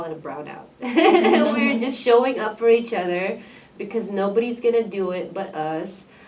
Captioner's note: laughs